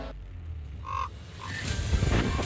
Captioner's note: ravens cawing